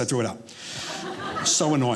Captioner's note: audience laughing